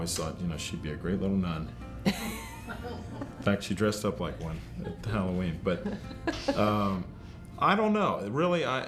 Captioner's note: laughter